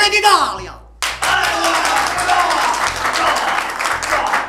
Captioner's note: applause